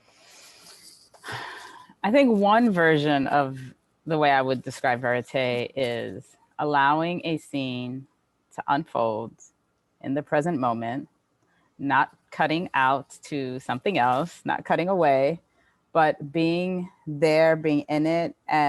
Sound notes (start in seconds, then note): 1.2 sighing